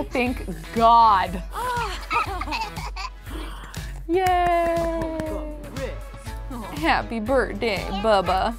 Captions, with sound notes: Thank God! (Archer giggling) Yay! Happy birthday, bubba.